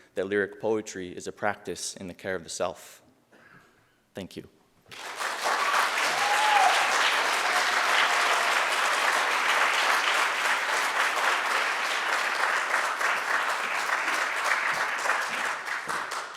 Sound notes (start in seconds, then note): 5.0 audience cheering and applauding